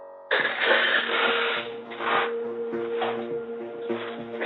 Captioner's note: sobbing